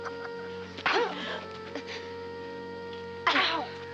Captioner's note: grunting